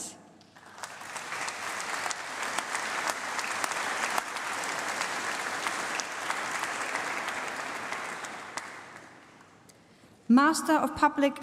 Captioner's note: applause